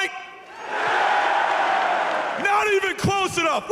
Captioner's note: crowd roars